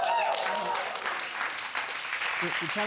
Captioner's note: audience cheering